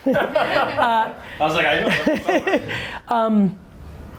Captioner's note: laughing